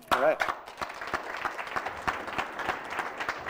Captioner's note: applause